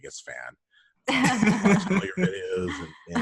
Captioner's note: laughter